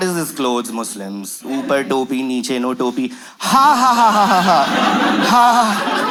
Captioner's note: laughs in shame